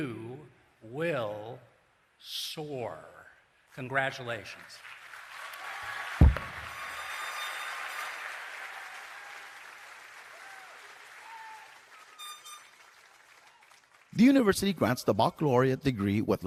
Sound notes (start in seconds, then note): 4.8 cheering and Applause